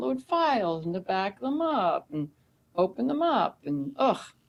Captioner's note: scoffs